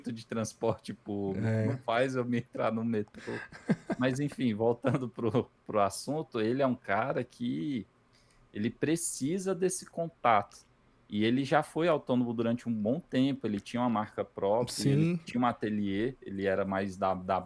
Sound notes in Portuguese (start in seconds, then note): 3.2 risadas